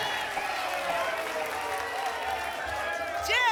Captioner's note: applause and cheering cont